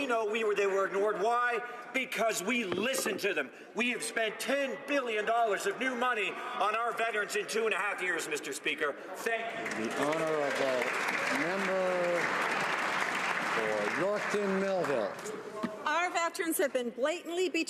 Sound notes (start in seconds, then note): 15.2 some Applause